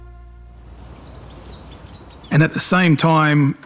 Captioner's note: birds chirping